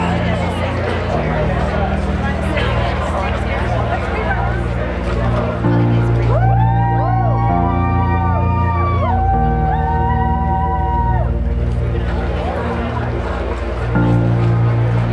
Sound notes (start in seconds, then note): 6.3 crowd cheering; 9.6 inspirational music